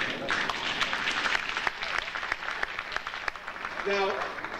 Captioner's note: audience applauding